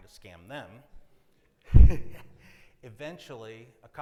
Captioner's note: attendees laugh; laughs